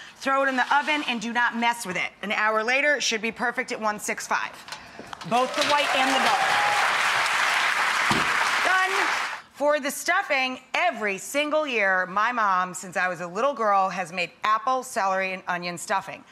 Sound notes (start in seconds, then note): 5.4 clapping